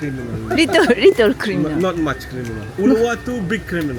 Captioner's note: laughs